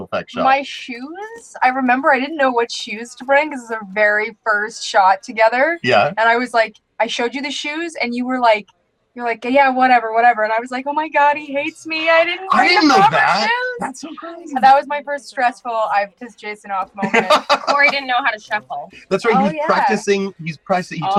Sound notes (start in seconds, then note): 17.0 laughs